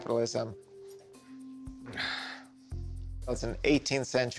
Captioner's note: exhales